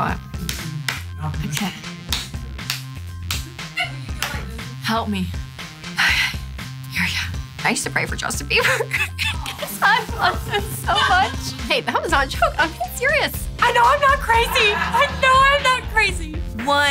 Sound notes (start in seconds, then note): 0.3 hands clapping; 8.6 laughs